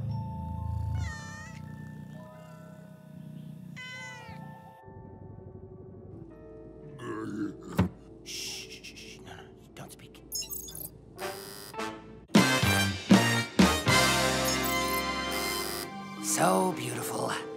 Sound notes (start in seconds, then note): 0.6 purrs and meows; 3.7 meows; 8.8 whispering